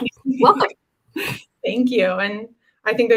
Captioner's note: laughter